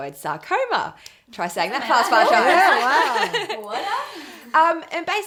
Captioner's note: laffs